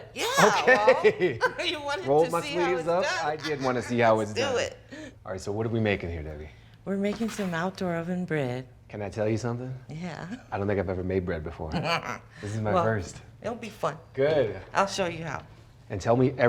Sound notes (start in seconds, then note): 0.1 laughs; 11.7 laughs